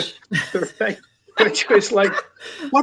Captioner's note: laughs